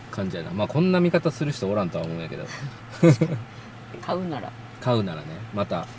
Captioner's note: laughs